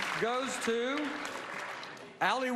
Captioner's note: applause